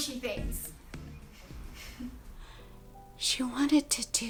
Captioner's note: Allison sighs